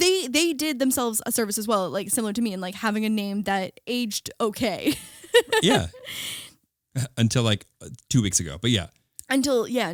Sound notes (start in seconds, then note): 5.3 laughing